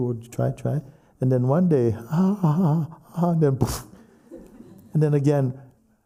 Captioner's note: makes crashing noise